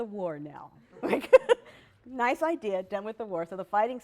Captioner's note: laughter